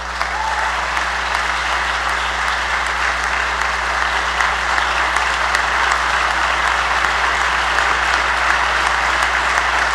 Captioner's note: applause